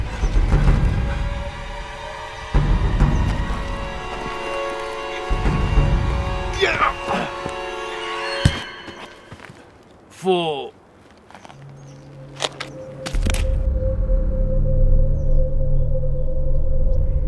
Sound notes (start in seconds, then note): 8.3 thump; 9.7 Antonio whispers; 12.6 thud